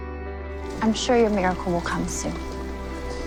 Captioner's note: voiceover